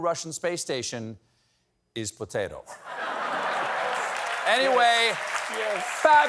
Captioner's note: applause; laughter